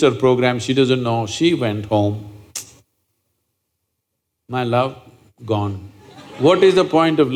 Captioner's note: laughter